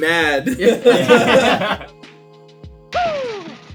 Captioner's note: laughter